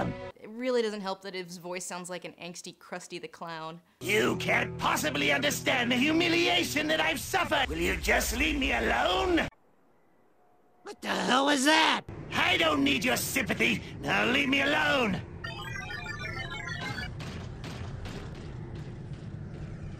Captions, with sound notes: It really doesn't help that his voice sounds like an angsty Krusty the Clown. "You can't possibly understand the humiliation that I've suffered." "Will you just leave me alone?!" "What the hell was that?" "I don't need your sympathy, now leave me alone!" [Minicons beeping]